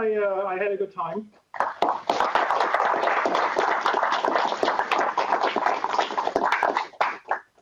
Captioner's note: applause